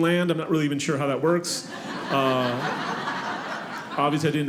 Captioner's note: audience laughing